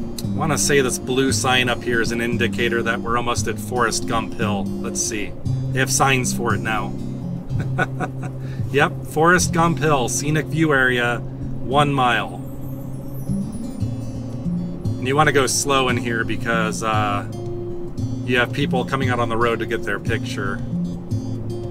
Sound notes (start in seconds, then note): 7.5 laughter